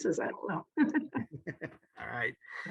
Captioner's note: chuckling